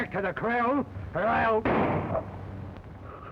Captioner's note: gunshot